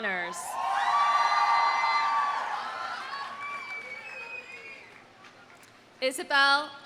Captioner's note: audience cheering; audience applauding